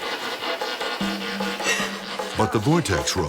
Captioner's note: crying; voiceover